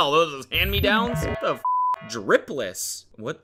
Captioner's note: beep